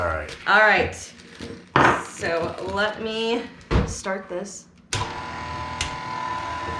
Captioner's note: Kitchen Aid whirring